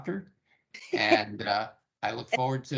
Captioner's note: laughing